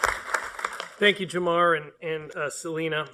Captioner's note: applause